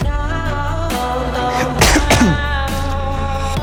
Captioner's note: coughs